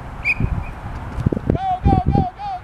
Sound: whistle screeches

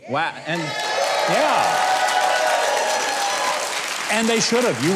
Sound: audience applauding

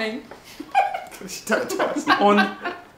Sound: artists chuckling

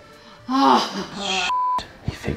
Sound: groans

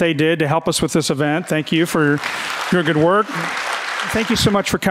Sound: audience clapping

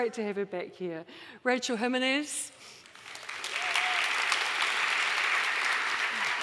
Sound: audience applauding

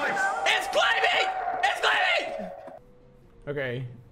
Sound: yelling; in Spanish

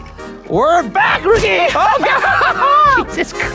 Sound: laughing

